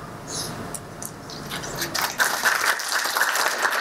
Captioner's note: applause